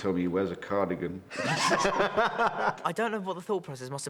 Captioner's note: both laughing